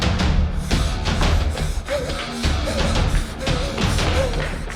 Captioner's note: heavy breathing